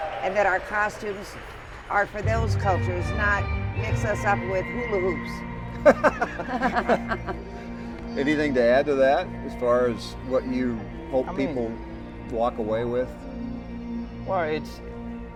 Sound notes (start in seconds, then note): 5.7 laughter